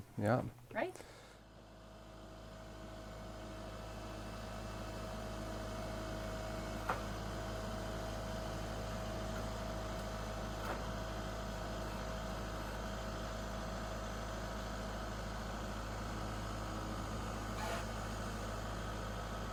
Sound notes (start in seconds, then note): 3.2 engine sound